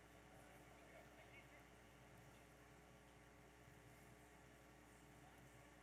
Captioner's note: audience chattering